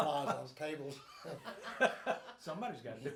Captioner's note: group laughs